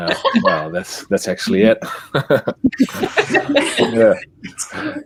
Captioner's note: all laughing; chuckles